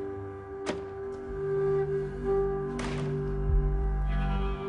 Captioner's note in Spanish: Sonido al abrir la puerta